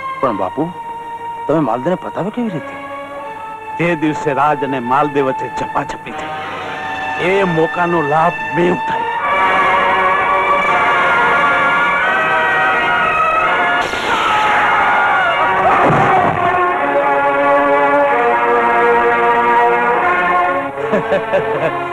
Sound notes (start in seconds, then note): 13.8 gunshot; 20.7 laughs